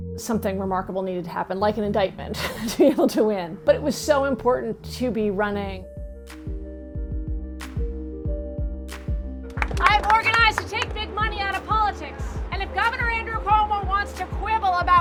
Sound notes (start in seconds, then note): 2.4 chuckles; 5.6 mellow electronic music; 9.4 crowd applauds